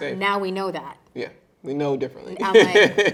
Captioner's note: chuckling